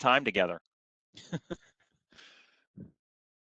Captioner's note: laughter